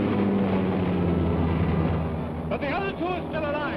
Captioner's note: plane roaring